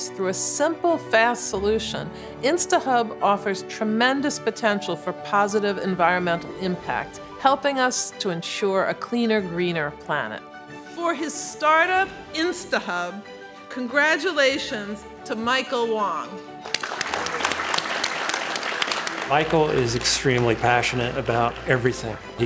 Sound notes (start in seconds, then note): 16.6 audience applause